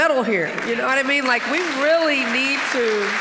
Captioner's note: audience applauding